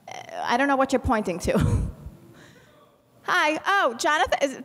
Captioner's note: chuckles